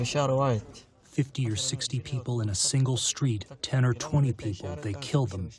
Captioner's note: through translator